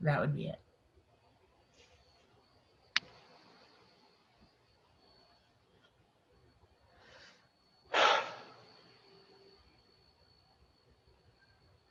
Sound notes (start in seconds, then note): 7.9 exhaling